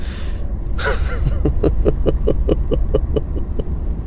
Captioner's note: laughs